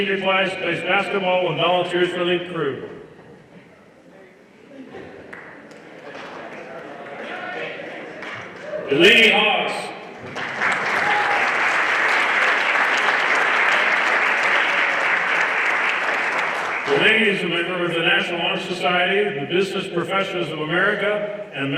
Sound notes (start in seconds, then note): 10.2 everyone applauding